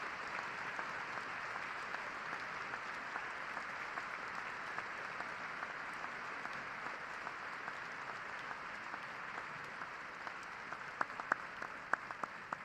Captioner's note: cheers and applause